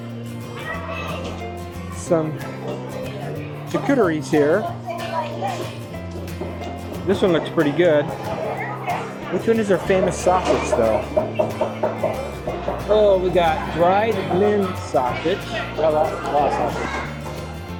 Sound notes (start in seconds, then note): 10.1 meat chopping sounds